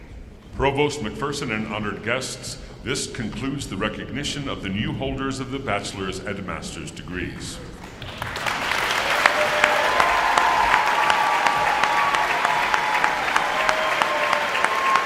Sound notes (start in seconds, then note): 7.9 audience applauding and cheering